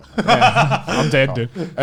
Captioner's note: Garnt laughs